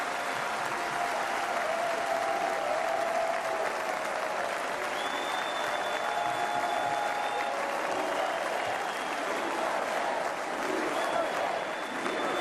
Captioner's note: applause; cheering